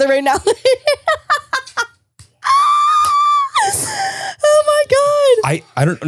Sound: continues laughing

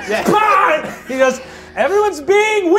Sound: yells

